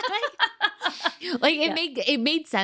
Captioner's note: both laughing